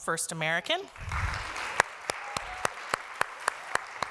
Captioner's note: applause